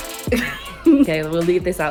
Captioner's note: laughing